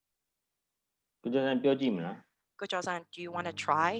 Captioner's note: speaking burmese